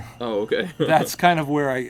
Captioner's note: chuckling nervously